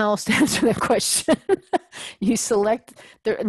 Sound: laugh

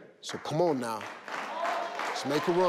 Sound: audience clapping

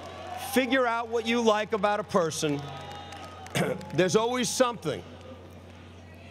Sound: cough

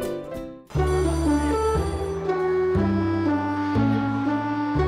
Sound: bell ringing

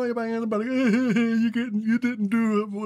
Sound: crying

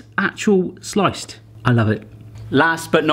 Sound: none

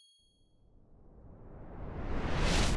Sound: high pitch note; loud whoosh

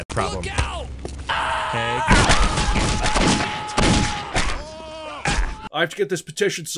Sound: screams

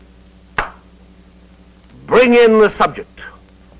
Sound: claps

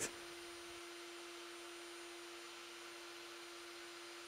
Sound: router whirring

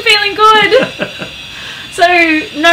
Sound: laughs

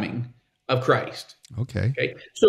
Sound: laughing

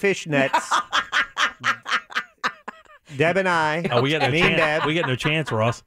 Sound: laughing

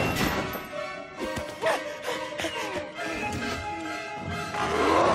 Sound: clanging; panting; roaring

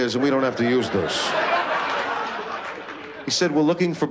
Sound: laughter

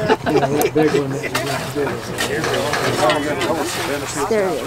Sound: laughter

